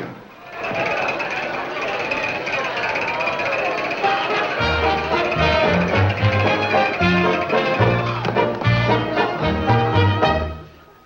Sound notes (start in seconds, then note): 0.6 men cheering; 5.2 lively music